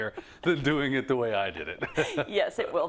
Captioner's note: laugh